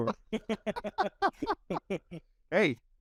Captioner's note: both laughing